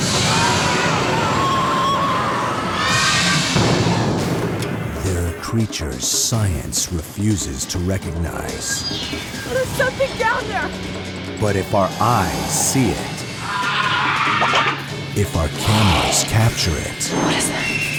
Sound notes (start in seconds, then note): 13.3 shrieks